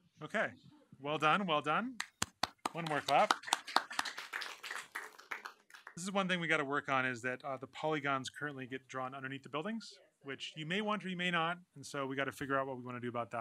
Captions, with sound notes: OK, well done. Well done. One more clap. [APPLAUSE] This is one thing we've got to work on, is that the polygons currently get drawn underneath the buildings, which you may want or you may not. And so we've got to figure out what